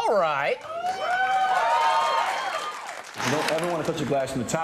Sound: applause

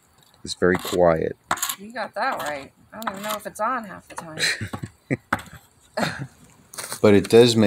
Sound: laugh

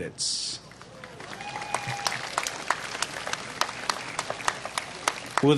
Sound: applause

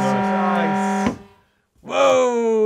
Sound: horn blaring

